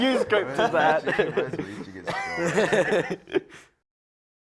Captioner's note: laughter